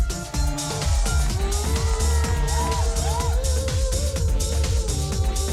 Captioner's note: cheering and applause